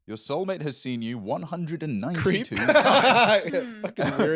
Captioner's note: laughs